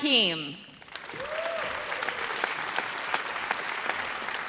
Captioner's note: audience cheers